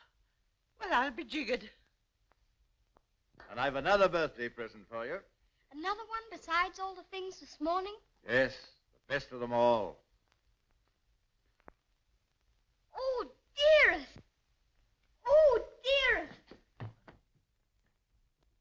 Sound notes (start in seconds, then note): none